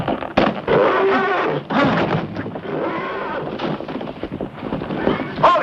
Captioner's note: horse grunting